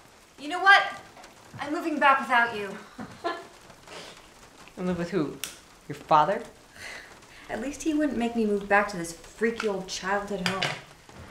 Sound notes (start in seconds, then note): 2.8 laughs